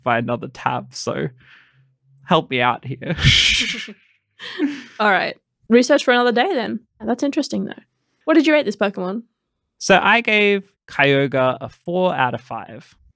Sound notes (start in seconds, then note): 4.4 laughing